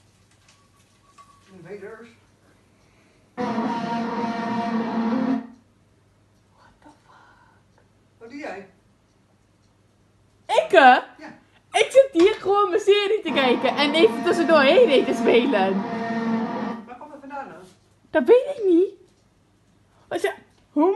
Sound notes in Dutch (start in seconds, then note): 3.4 heel hard vuvuzela geluid; 13.2 vuvuzela geluid